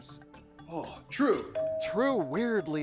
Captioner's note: bell chimes